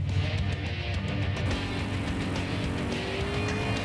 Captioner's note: engine revving